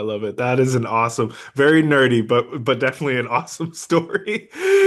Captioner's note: laughs